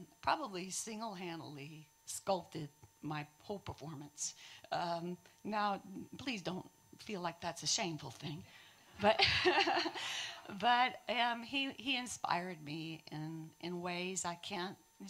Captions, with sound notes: probably singlehandedly sculpted my whole performance. Now, please don't feel like that's a shameful thing. (audience laughing) but he inspired me in in ways I can't,